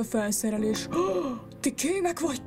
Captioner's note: gasp